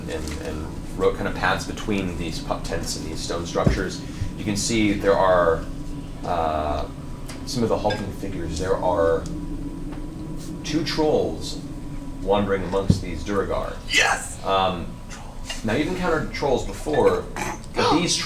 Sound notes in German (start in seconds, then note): 14.5 flüstert